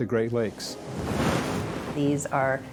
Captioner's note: waves blast lighthouse